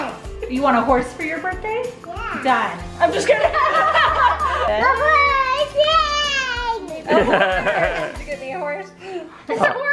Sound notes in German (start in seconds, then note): 3.2 alle lachen; 7.0 Gelächter